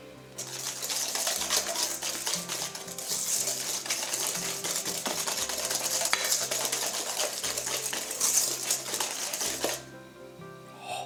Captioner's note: happy whisking sounds